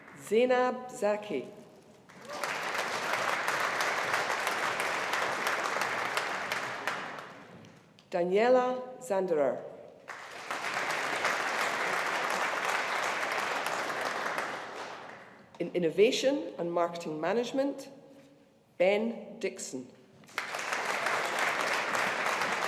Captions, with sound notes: Zainab Zaki, (AUDIENCE APPLAUDING) Daniela Zanderer. (AUDIENCE APPLAUDING) In Innovation and Marketing Management, Ben Dickson, (AUDIENCE APPLAUDING)